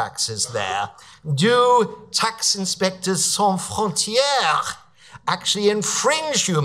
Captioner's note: speaks in foreign language